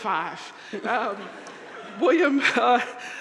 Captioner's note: audience laughing